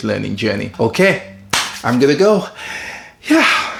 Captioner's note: claps